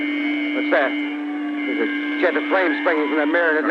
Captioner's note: beeping and sirens; strange “shrieking” noise